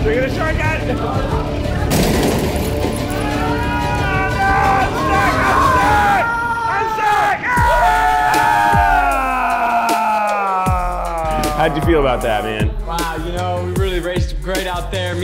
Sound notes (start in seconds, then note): 3.7 screaming